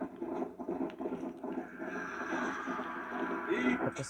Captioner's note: sounds of galloping horse